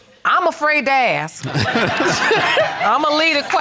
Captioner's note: audience laughing